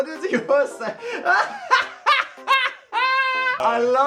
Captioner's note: laughing